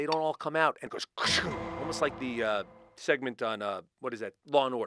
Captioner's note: sound effect